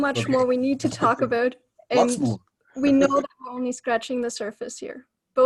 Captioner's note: interrupts and laughs